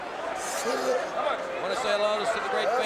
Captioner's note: crowd chatter